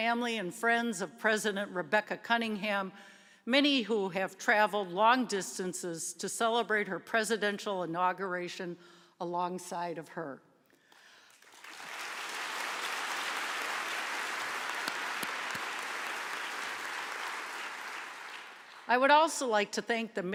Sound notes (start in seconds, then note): 11.0 applause